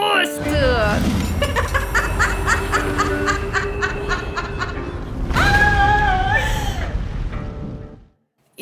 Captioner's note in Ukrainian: божевільний сміх